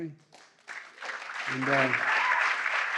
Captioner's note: applause